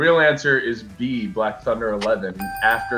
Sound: bell dings

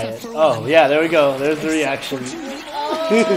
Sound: laughs

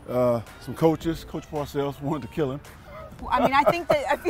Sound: laughs

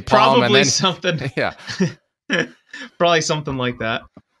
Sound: laughs

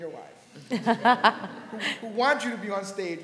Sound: laughter

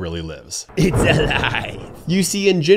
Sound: lightning cracking

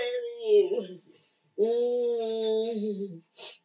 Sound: wailing

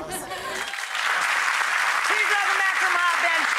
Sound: audience applause

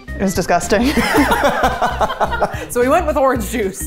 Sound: both laughing

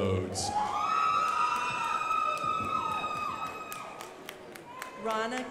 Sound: crowd applauding

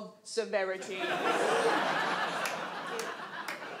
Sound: audience laughs

